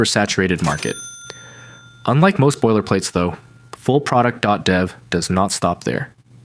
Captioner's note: bell dings